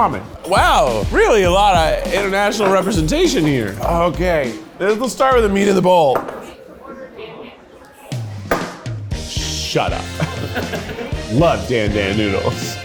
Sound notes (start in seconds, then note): 10.0 crew laughs